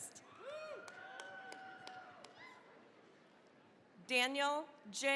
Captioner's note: cheering, applause